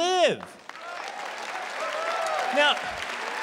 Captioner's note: applause